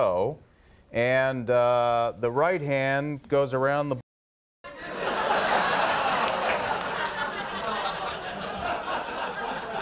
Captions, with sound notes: And the right hand goes around the. (audience laughter)